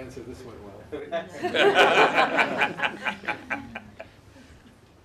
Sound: laughter

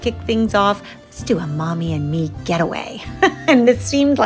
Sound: laughs

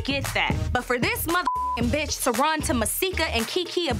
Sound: beep

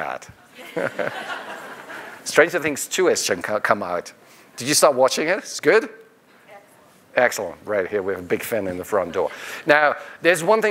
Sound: laughter

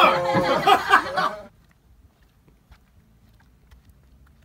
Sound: laughter

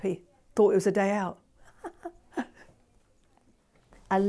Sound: laughing

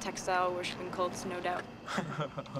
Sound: all laughing

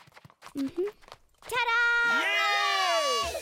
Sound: guests cheering

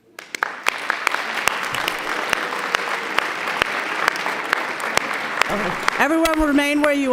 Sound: applause

